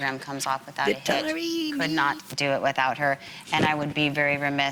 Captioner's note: speaker speaks faintly